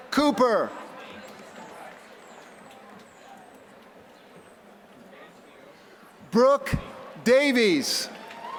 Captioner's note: applause